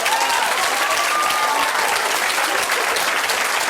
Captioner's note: applause